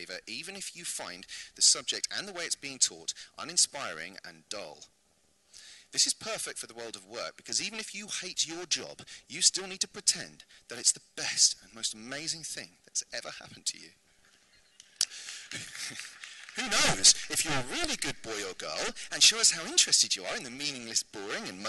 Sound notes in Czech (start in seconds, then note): 15.0 potlesk